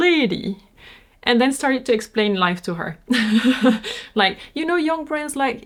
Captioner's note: laughs